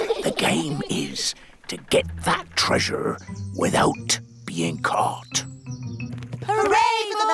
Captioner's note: all giggle; whispers